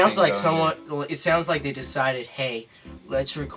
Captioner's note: none